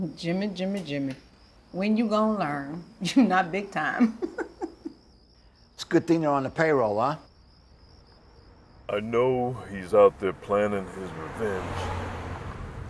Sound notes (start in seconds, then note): 3.9 chuckles